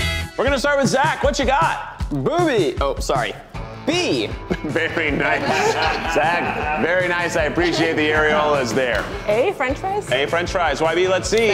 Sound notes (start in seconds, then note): 4.4 contestants laugh